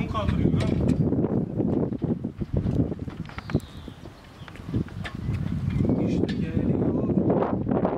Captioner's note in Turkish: Rüzgar sesi